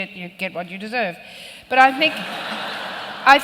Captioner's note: laughter